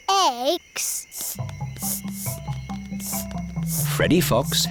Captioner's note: sniffing